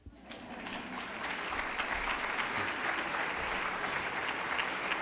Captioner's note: applauding